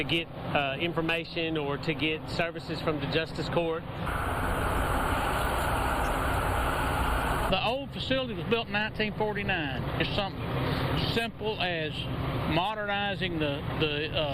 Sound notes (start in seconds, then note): 4.0 sound of highway traffic